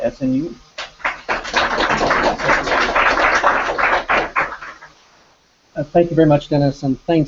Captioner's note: applause